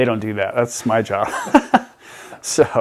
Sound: laughs

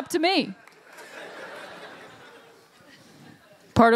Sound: laughter

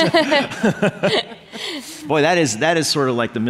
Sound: laughter

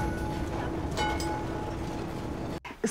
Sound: the door closing sound; tram whistle

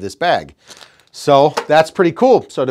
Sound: bag rustling

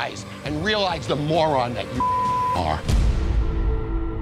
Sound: beep

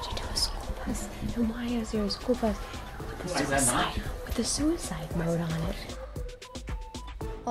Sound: whispering

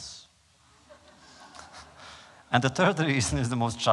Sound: laughter

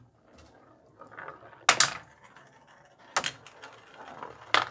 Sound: marbles rolling

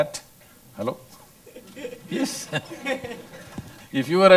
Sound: laughter

